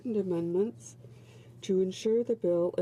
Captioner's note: speaking French